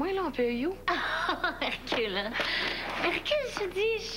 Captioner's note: Rire